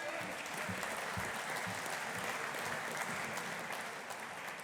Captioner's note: audience applauding